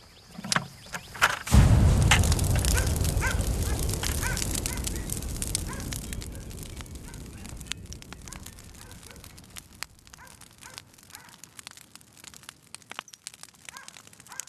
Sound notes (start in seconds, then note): 3.5 dog barks; 6.0 fire crackling